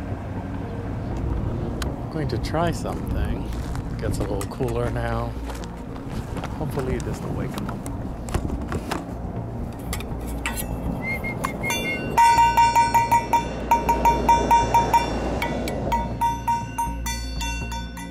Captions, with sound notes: Going to try something, gets a little cooler now, hopefully this will awake him up. [Whistles] [Clanging]